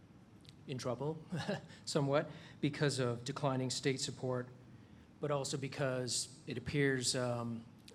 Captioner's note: chuckles